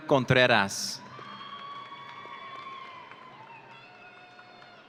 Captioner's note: audience cheering